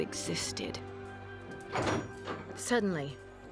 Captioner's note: door opens